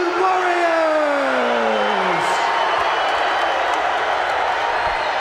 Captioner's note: crowd cheer